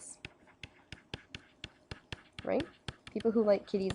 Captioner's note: scribbling on paper